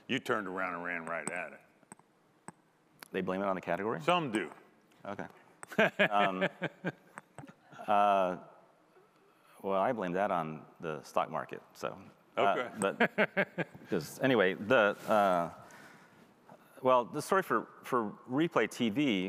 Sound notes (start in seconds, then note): 13.1 laughing